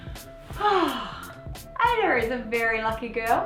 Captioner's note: sigh